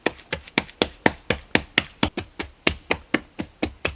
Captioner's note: patting